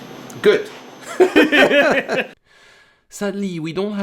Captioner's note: laughter